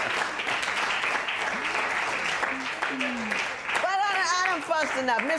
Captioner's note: applause